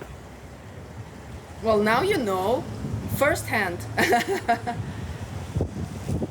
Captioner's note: laughs